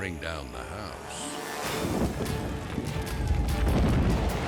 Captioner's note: edgy dramatic music; fire exploding; dramatic music